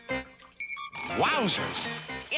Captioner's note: ringing